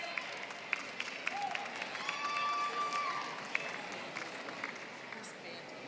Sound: applause

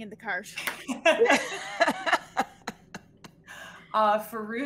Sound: all laughing

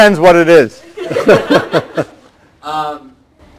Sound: laughter

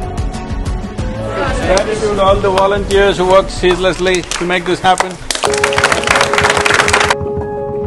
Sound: applause

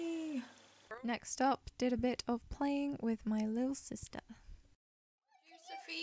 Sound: voiceover

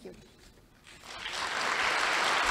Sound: applause

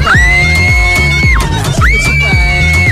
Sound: screams; screams even louder

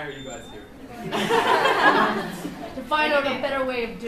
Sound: laughs

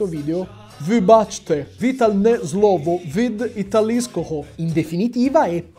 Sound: speaks ukrainian

